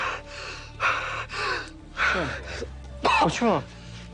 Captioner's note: Sean breathes heavily